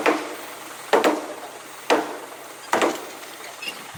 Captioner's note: sound of hitting with a hammer